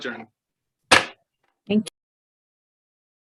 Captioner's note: thudding